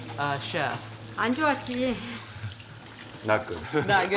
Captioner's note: mother speaks in foreign language; laughs